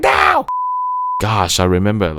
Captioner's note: beep